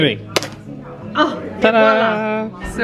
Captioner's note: sphere cracks open